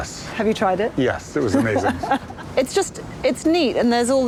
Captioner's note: laughs